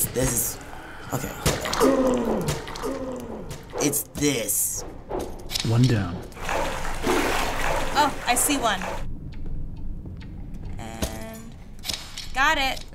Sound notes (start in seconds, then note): 6.3 splashing